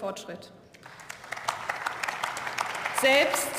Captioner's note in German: Beifall